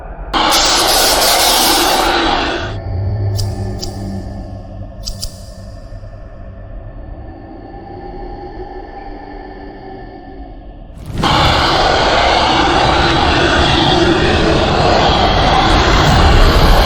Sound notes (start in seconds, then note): 0.4 electricity crackling; 11.0 creature roaring